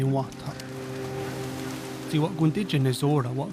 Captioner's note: waves crashing, birds calling